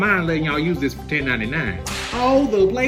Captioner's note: whip cracks